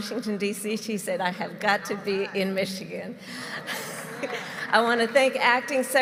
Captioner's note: laughter